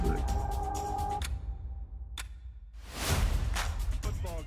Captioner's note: clock ticking